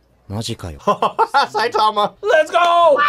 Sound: laughs

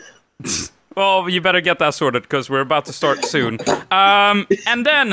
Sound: snicker

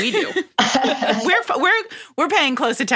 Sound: laughter

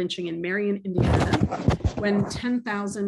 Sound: cracklingdrowns out speaker

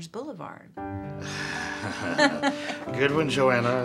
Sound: both laughing

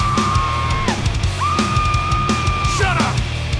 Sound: woman screaming

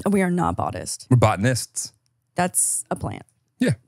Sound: laughs

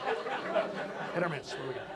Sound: audience laughs

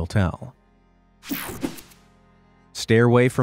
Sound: picture swooshes

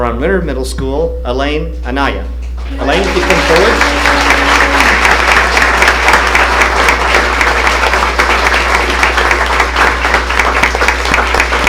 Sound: applause

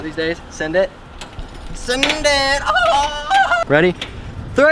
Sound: weird laugh

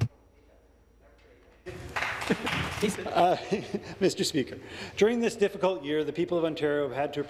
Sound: some Applause

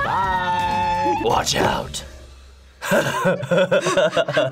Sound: laughing

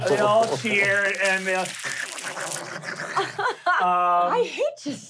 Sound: skittering

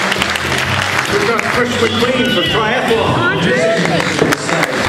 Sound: cheering and clapping

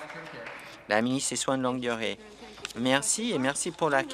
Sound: some applause

